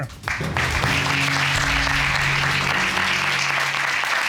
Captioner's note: audience applauding